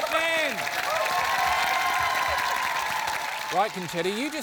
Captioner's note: cheering, applause